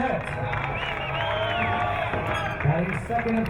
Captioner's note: crowd cheering